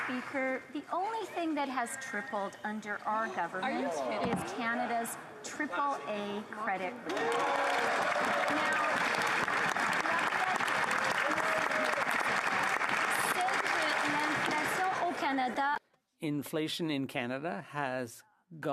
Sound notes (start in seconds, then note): 8.2 chatter